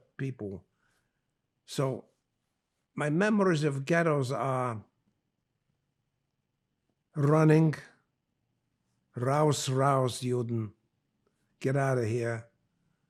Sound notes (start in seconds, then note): 9.1 german